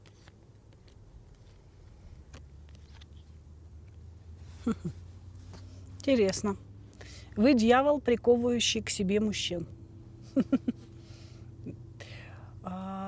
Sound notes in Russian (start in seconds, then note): 10.2 смех